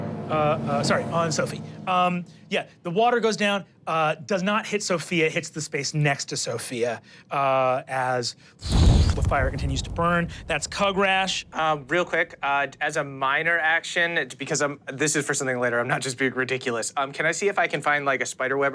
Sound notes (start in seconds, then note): 8.6 fire whoosh